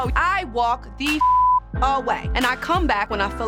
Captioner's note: beep